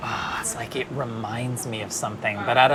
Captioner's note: sighs